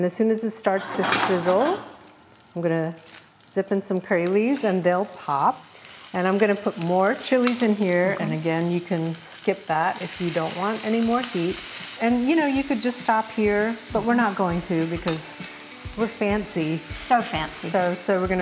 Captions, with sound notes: And as soon as it starts to sizzle, I'm going to zip in some curry leaves and they'll pop. And I'm going to put more chilies in here. And again you can skip that [onions sizzling] if you don't want any more heat and you could just stop here, but we're not going to because we're fancy. - So fancy.